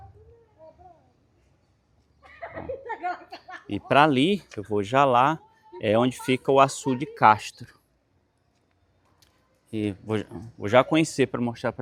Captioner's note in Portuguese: risadas